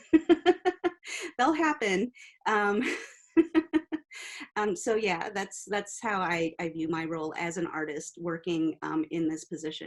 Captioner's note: laughing